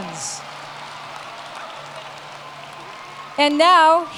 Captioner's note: cheers and Applause